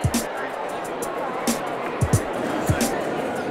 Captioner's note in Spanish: gente hablando